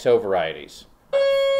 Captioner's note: doorbell rings